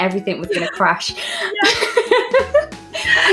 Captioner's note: laughing; laughs